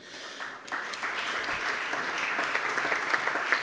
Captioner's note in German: Beifall